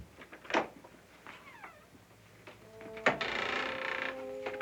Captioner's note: door creaks and closes